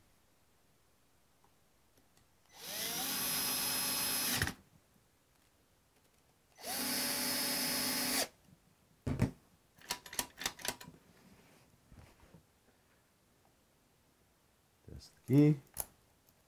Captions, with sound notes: (drill whirring) (lock clicking) Here's the key.